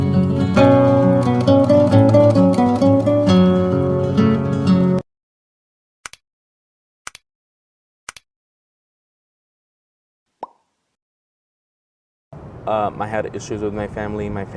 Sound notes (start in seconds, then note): 6.1 camera clicking; 10.4 bubble popping